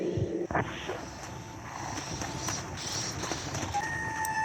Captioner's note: unknown Gunshots; screepy Music